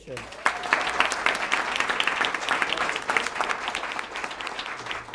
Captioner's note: applause